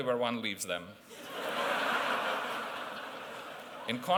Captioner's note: laughter